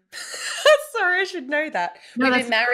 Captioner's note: laughs